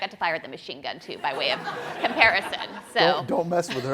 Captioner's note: crowd laughing